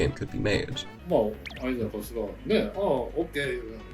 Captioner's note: in japanese